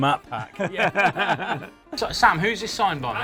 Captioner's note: both laugh